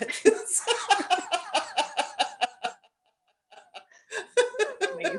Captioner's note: laughter